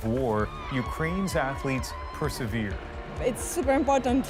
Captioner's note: cheers and Applause